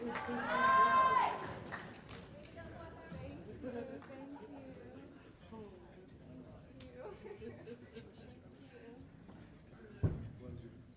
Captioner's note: cheers and applause